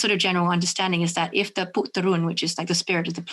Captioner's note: speaks in foreign language